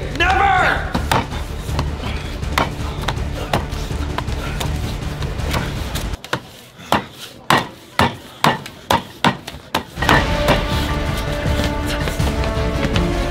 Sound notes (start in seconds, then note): 0.0 tense music playing; 6.5 banging on table sounds; 10.1 music intensifies